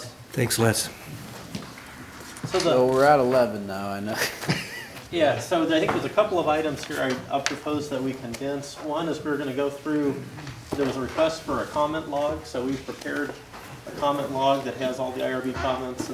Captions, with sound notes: - All right, thank you, Les. - Thanks, Les. - So were at 11 now and (chuckling). - Yeah, so I think there was a couple of items here that I propose to condense. One is we're gonna go through those requests for a comment log so we prepared a comment log that has all the IRB